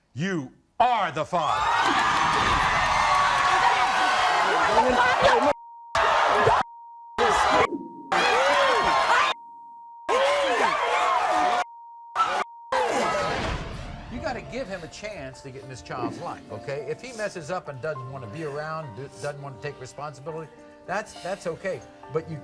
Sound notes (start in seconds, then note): 1.4 crowd cheering; 4.9 cheering drowns out